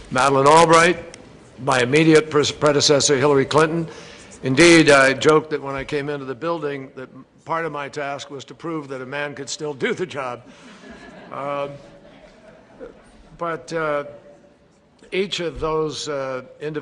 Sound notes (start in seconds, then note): 12.4 laughter